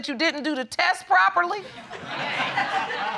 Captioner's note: audience laughing